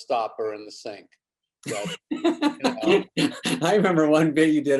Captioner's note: David laughs